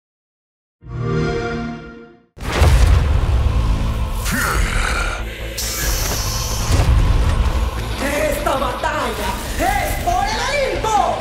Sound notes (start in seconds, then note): 0.9 sonido de xbox